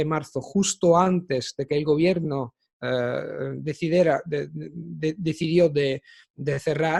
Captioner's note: Italian